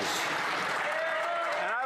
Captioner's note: some Applause